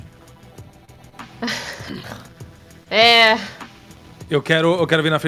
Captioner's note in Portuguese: Risada